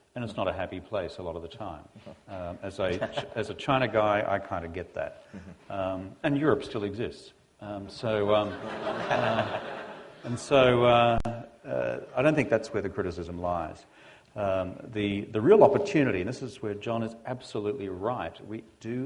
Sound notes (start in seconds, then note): 8.3 laughter